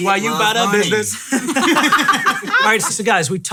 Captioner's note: laughing